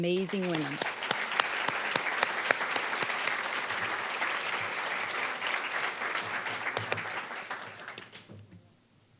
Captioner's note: applause